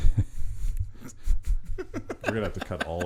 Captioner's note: laughing